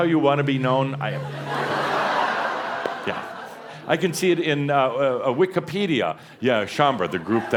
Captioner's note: more laughter